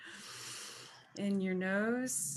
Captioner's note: inhales